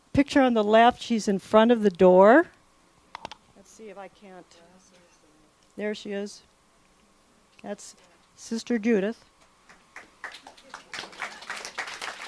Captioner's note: clapping